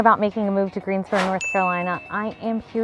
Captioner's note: bell dings